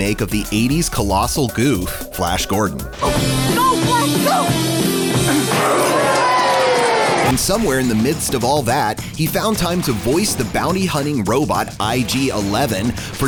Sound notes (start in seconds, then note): 4.7 dramatic synth music; 5.5 Flash grunts; 5.5 groans